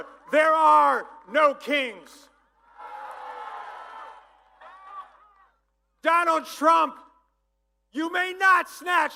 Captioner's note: applause